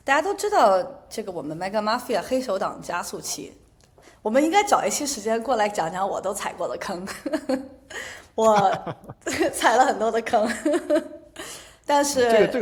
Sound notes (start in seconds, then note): 8.4 laughter; 11.2 laughter